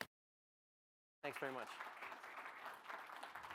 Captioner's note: audience applauds